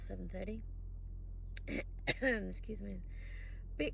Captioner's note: coughs and clears throat